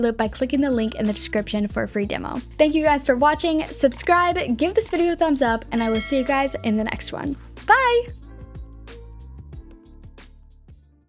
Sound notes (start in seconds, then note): 5.7 bell dinging; 7.6 upbeat music